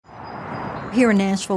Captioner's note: birds chirping